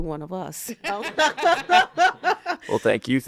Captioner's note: laughing